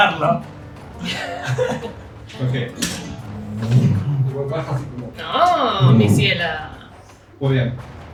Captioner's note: weapon swings